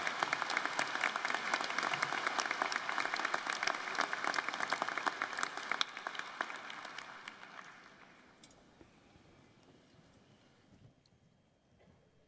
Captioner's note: cheers and applause